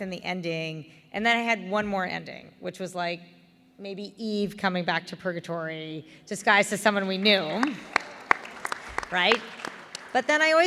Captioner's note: applause